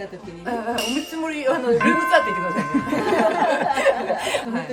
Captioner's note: laughs